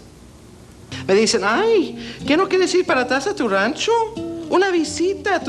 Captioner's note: speaks foreign language